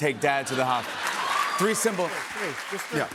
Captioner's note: cheers and applause